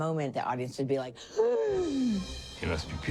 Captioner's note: gasps